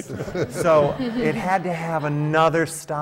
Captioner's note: laughter